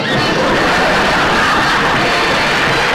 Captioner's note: audience Laughing; music and Applause